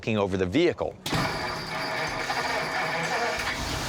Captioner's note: engine turns over